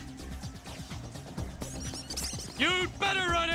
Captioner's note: comedy squeaky run